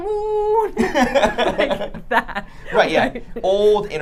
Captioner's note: group laughing